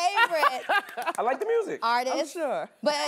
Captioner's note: laughing